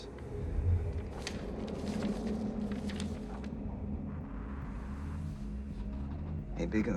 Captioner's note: eerie music; pages flipping